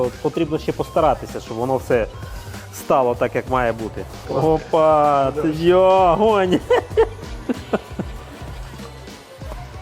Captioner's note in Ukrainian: сміх